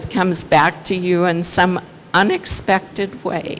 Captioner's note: none